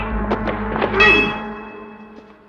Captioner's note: clang